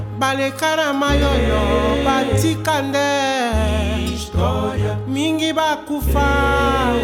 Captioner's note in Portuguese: none